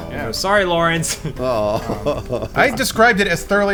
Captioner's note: laughing